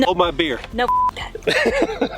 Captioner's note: beep; laughing